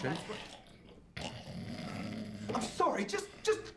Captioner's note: guy snoring